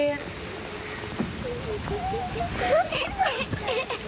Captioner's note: crying